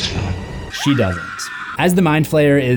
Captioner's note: Heather screaming